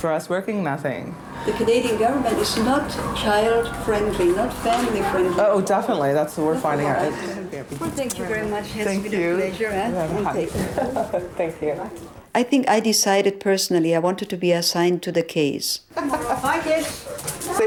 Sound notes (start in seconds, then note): 10.6 laughing